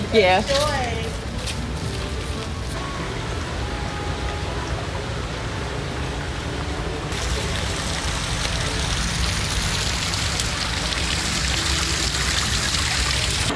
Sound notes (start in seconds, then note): 1.4 happy music; 8.4 water rushing